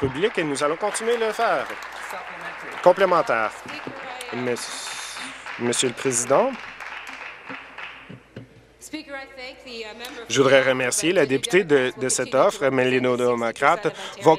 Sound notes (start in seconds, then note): 3.0 applause